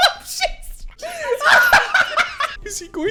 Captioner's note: laughter